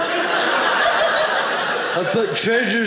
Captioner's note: audience laughing